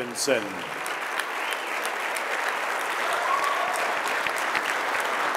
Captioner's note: audience applauding